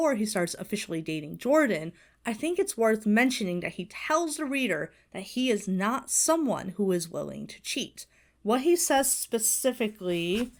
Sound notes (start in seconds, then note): none